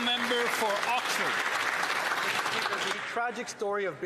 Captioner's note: some Applause